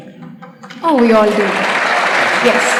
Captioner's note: applause